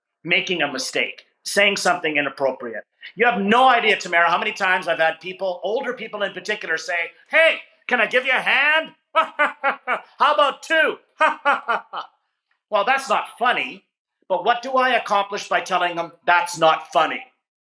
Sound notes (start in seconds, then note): 8.4 imitating mocking laugh